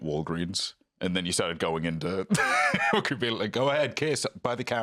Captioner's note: laughs